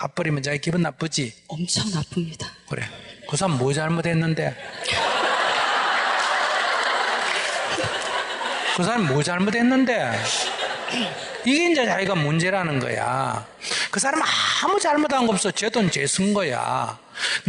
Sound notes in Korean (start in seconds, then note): 7.2 청중 웃음; 10.1 청중 / 질문자 웃음